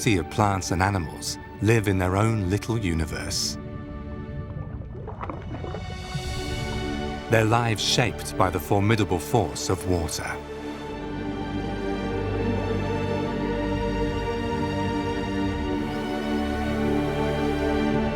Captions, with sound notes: of plants and animals live in their own little universe, (water sloshes) their lives shaped by the formidable force of water. (gentle music)